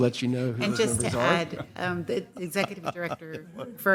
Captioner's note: laughter